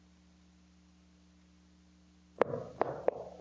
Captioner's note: hammer falls to the ground